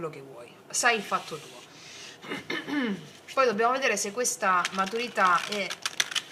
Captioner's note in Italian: schiarire la voce